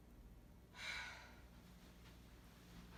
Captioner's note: sigh